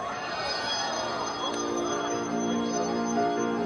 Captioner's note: crowd woos